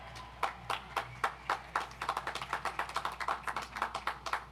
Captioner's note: audience applauds